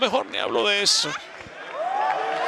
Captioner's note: applause